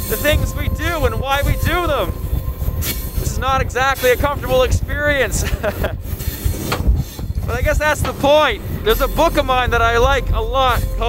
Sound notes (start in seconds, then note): 5.2 laughs